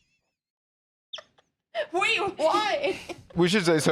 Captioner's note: laughs